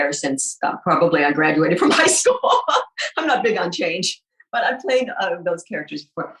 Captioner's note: laughs